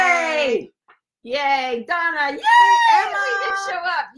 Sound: cheers

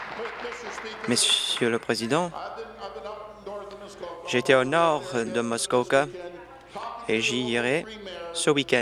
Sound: applause

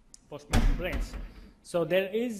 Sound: cupboard banging

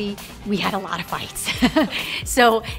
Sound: laughs

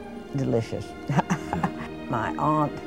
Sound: laughs

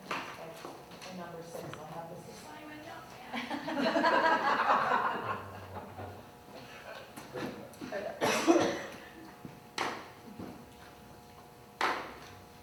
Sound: laughter

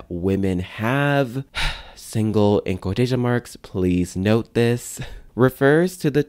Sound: sigh

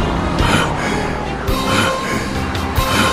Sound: gasps

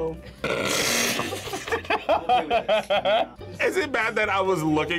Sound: buzzer rings; laughs

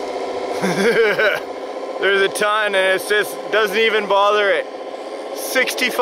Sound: laughs

